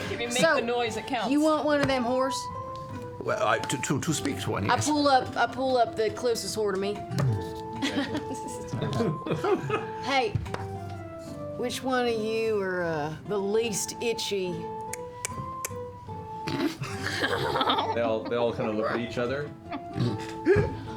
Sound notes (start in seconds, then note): 14.8 clicks tongue